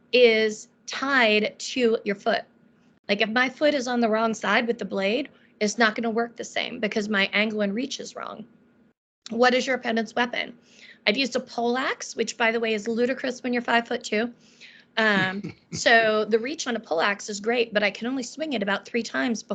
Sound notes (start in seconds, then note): 15.2 laughing